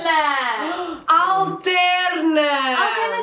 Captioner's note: gasp